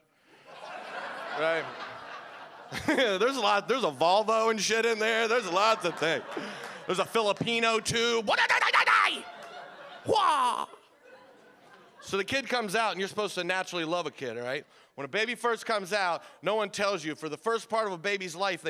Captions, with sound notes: (audience laughing) There's a Volvo and shit in there, there's lots of things. There's Filipino tube. (shouting) So the kid comes out and you're supposed to naturally love a kid, right? When a baby first comes out no one tells you for the first part of a baby's life